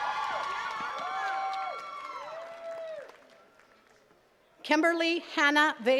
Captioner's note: attendees cheering and clapping